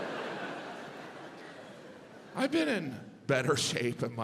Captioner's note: audience laughs